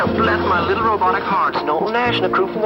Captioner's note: robotic voice